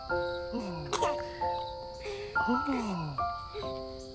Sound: baby cooing

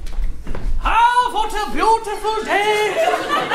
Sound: German accent

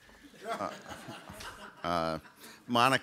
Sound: audience laughs

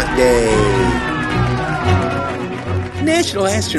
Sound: crowd cheers

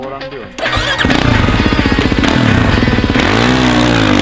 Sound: bike engine roaring

